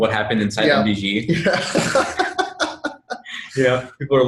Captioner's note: laughs